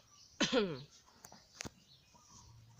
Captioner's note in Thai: ไอ